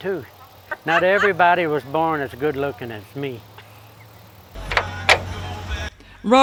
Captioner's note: laughs